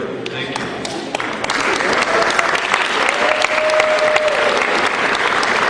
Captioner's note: cheering